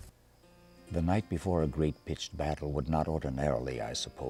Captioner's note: voiceover